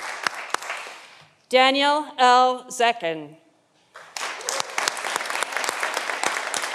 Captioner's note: audience applauding